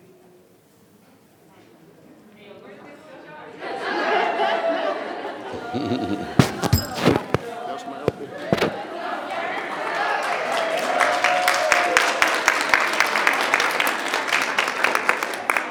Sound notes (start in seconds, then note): 11.2 audience cheering